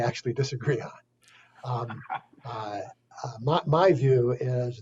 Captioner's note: laughs